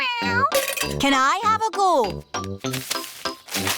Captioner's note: meows